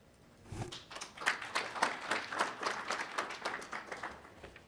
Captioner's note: attendees applauding